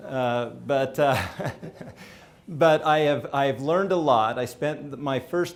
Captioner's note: laughs